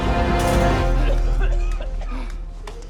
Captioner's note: coughing